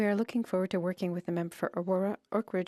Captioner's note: speaking French